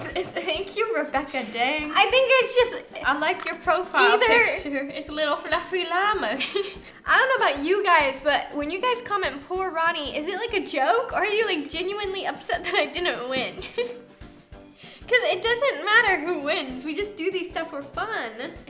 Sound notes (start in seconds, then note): 4.0 laughs